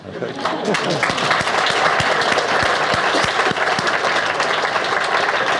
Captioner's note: audience laughs and applauds